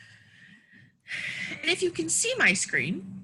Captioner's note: sighs